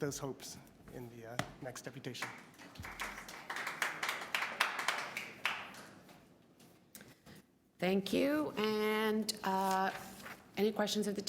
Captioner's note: applause